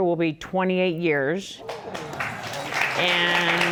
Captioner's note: audience applauding